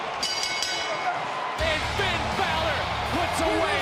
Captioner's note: bell ringing